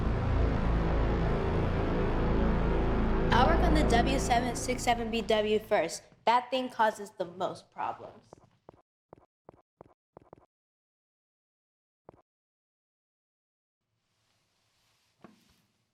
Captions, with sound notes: - I'll work on the W-767BW first. That thing causes the most problems. (footsteps continue)